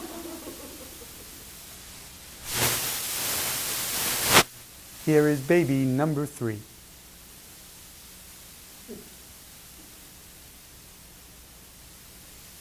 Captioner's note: laughter